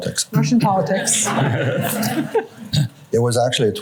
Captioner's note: laughter